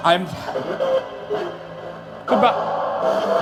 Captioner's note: device whirring